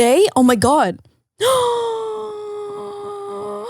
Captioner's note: gasps